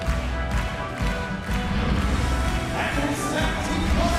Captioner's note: fans chanting